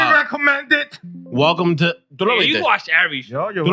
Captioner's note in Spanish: Hablando en idioma extranjero